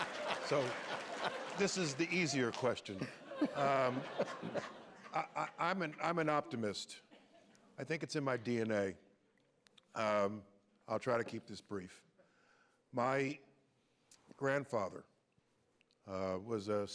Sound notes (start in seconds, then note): 0.0 laughter